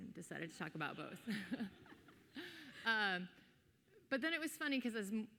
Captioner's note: audience laughing